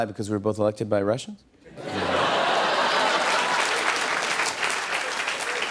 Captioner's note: laughter and applause